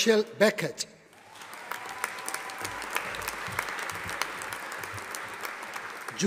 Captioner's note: audience applauding